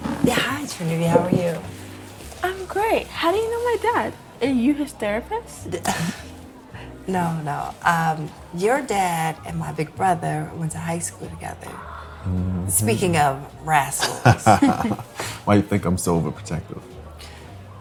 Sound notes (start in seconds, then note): 5.8 laughing; 14.0 both laughing